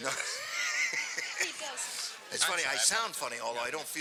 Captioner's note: laughs